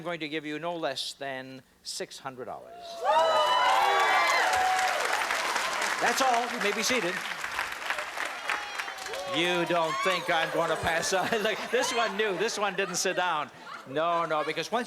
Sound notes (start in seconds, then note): 2.2 cheering and applause